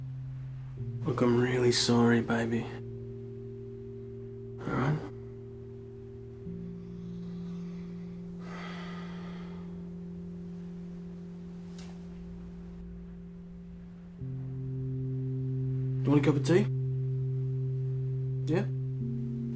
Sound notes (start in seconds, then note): 6.7 exhales